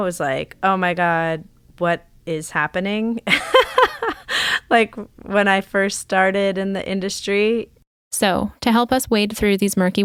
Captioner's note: laughs